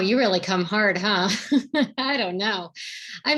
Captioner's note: chuckles